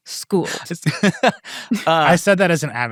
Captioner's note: laughing